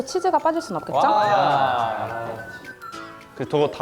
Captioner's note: Cheese lovers going wild